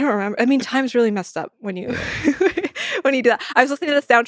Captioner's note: laughs